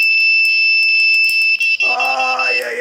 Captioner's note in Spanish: campana